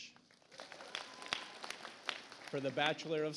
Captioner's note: audience applauds